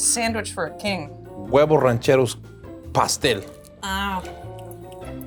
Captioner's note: speaking in foreign language